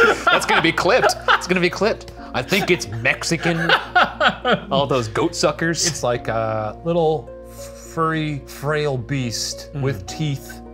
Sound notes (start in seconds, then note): 2.3 laughing